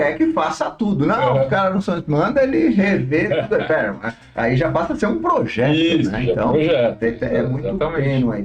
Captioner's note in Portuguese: risadas